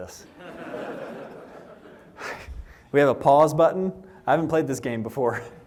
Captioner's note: laughter